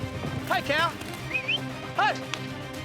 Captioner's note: whistling